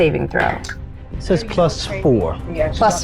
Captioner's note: speaking faintly